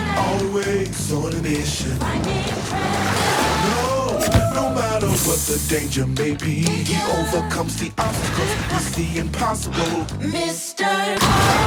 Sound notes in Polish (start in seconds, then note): 4.1 syk powietrza